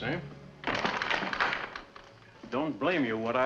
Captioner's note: door closing and locking